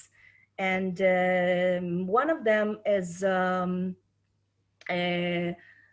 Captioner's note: speaking Hebrew